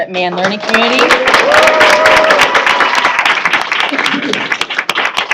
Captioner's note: cheers and applause